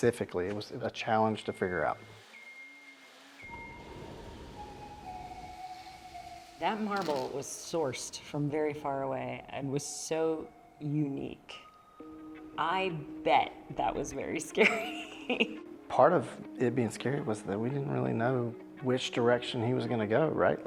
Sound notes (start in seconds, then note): 1.3 machine beeping softly in background; 4.5 gentle music; 14.9 laughing